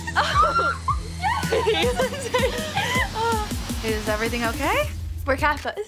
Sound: Kendall squealing

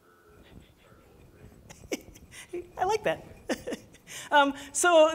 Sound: laughs

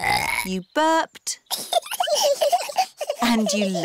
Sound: both burping; both giggling

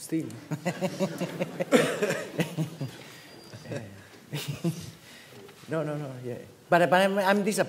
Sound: chuckles

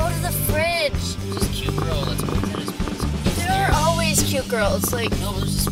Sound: drunken mumbling

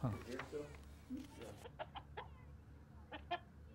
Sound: chicken clucking

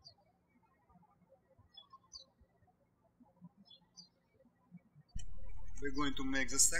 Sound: birds chirping

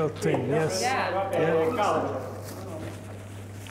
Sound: scattered talking

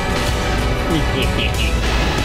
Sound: evil laughter

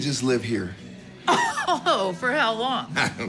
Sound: chuckling

